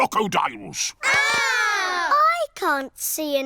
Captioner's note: all scream